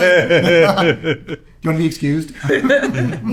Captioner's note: laughing